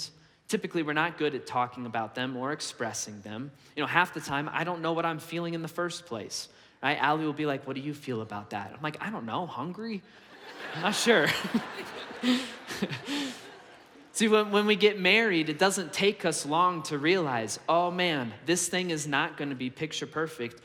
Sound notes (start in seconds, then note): 10.2 congregation laughs; 10.6 laughs